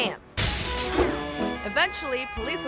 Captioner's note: glass shatters